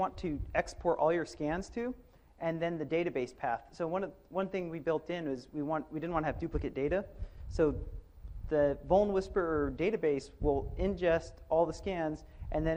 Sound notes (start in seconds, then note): none